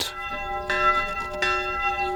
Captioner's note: ringing of bells